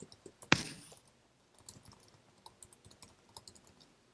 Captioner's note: keyboard tapping